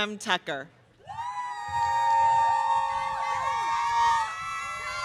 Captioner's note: audience cheering